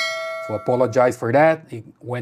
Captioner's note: bell ringing